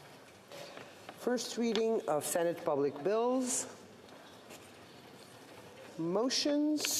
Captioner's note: speaking French